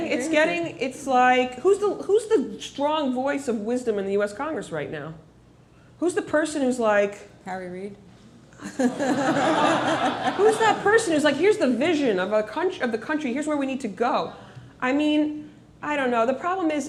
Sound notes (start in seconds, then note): 8.6 laughter